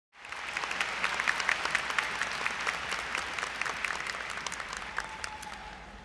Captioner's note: applause